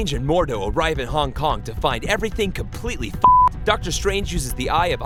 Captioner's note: beep